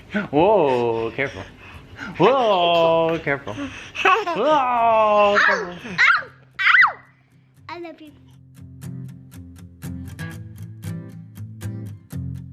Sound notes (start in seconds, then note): 5.8 shouts playfully; 9.2 light upbeat music